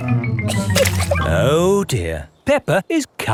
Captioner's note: chuckles